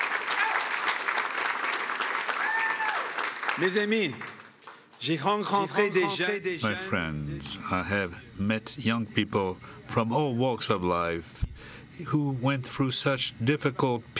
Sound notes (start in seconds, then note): 0.0 cheering; 9.6 speaking French